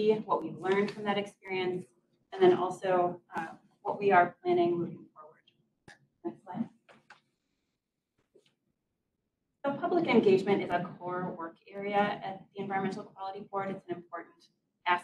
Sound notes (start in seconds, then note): none